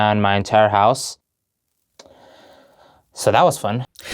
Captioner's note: awkward silence